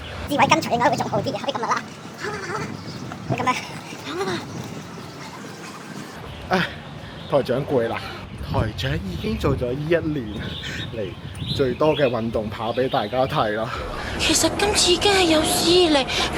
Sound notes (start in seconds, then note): 0.3 sound of gasping while running; 4.5 hahahahaha